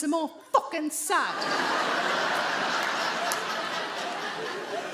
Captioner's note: audience laughs